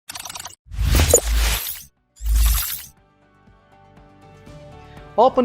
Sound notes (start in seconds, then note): 0.7 logo blasting; 0.7 logo whooshing; 2.8 light upbeat music